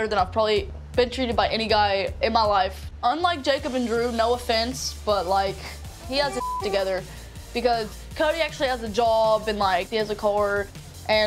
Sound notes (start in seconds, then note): 6.4 beep